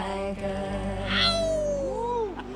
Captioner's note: men howling